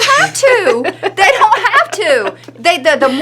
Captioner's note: laughing